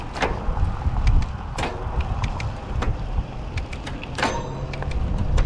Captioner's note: gears clunking